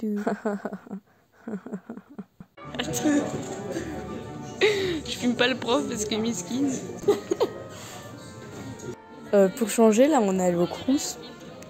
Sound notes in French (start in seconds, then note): 0.1 rires; 6.8 rire